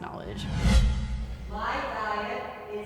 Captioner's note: air whooshing